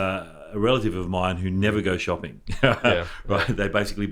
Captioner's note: laughs